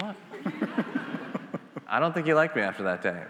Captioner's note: attendees laughing